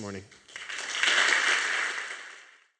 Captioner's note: applause